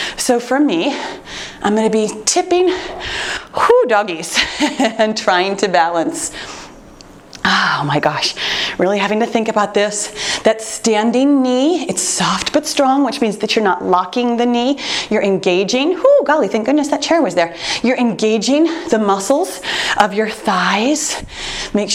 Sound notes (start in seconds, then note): 4.7 chuckles